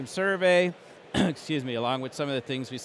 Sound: coughs

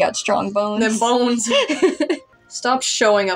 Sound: laugh

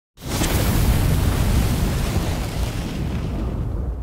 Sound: title thundering

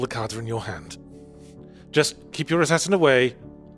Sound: none

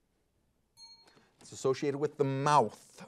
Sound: bell rings

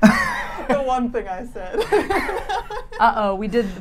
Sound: laughs

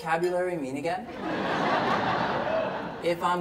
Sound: audience laughs

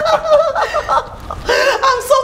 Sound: laughing

